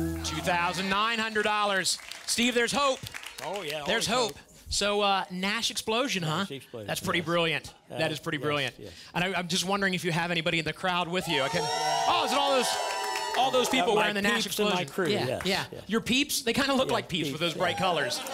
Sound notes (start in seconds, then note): 11.2 cheering